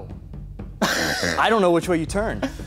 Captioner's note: laughing